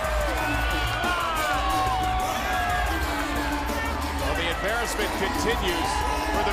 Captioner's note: crowd cheering